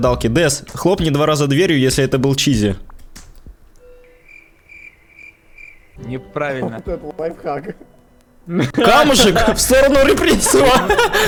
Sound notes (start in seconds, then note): 3.7 crickets; 8.5 laughter